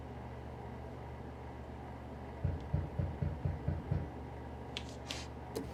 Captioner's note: door knocking